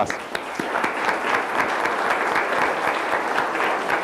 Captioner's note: audience applauds